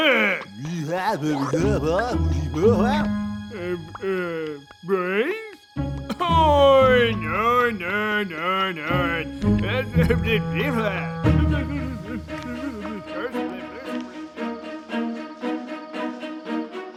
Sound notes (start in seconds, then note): 0.1 man speaks angry gibberish; 4.1 man stutters